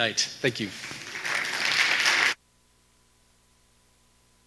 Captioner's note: audience applauding